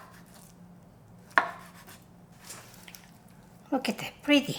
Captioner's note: knife chopping